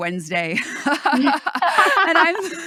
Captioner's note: laughs